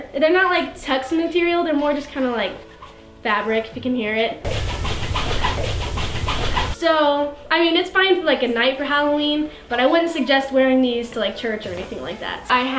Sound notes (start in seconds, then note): 4.4 rubbing